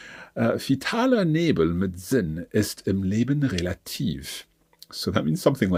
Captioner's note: speaking in foreign language